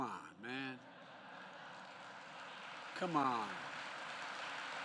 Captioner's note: laughter and applause